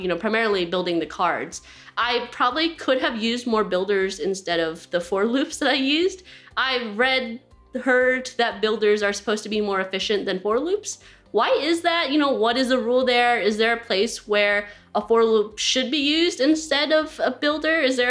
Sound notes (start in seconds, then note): none